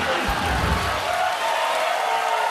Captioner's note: cheers and applause